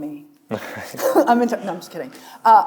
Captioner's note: chuckles